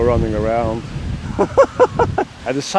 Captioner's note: laughs